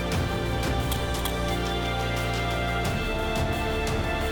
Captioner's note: camera shutter